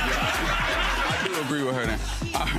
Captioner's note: audience laughing